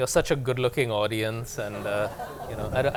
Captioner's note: laughter